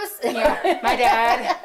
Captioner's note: laughing